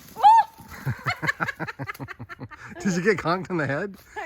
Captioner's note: laughing